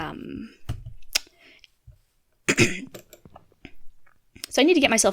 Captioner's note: click